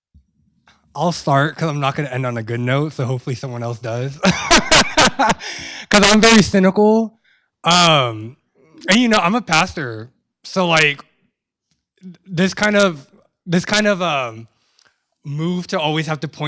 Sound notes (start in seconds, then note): 4.2 laughs